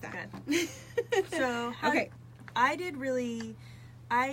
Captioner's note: laughs